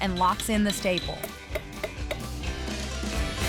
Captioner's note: hammering